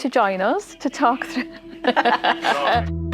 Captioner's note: both laughing; light guitar music